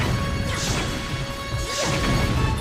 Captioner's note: shudder